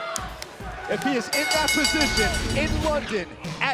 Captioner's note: bell ringing